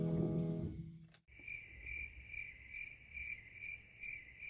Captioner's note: crickets chirp